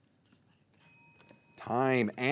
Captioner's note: bell dinging